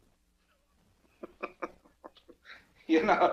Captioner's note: Earl chuckles